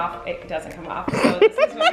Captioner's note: laughing